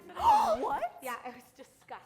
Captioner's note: gasps